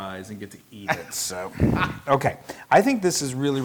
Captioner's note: laugh